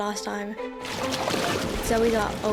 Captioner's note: water splashes